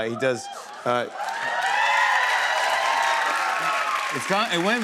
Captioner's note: cheers and applause